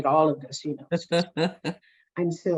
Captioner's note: laughs